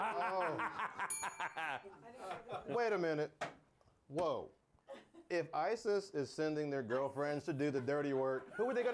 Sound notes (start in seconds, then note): 1.0 bell rings; 2.5 laughter